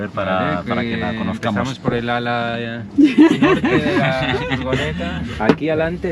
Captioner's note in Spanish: risas